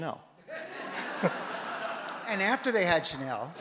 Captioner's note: audience laughs